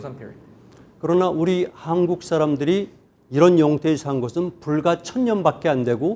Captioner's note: speaking in Korean